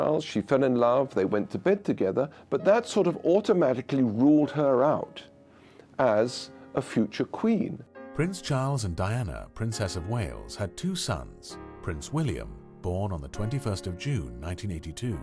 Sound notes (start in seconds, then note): 8.1 voiceover